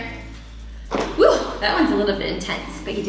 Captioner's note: feet thump on floor